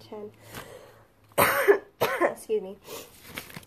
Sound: coughs

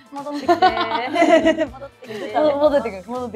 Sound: laughs

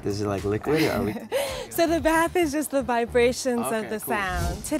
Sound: laughs

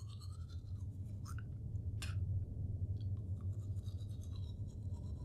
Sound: brushing teeth, spitting

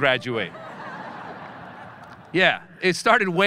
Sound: audience laughing

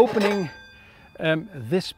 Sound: metals clinking

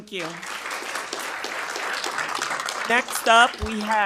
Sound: attendees applauding

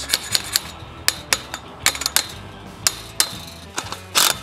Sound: metal hammering

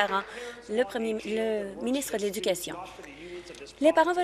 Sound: applause

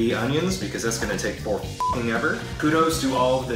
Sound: beep

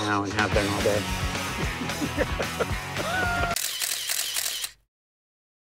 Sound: laughter

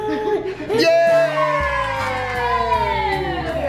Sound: cheering

